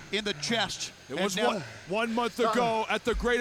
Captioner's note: heavy breathing